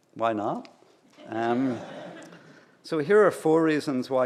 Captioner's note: laughter